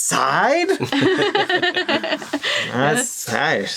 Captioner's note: all laughing